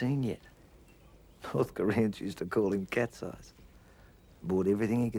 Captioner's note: speaks foreign language